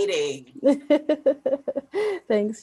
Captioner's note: laughs